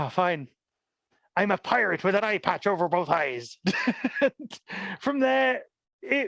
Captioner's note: laughs